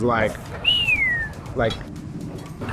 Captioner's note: whistles